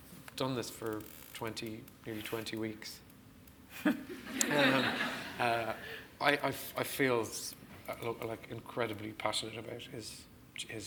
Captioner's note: laughs